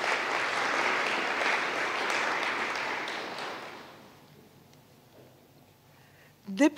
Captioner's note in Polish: oklaski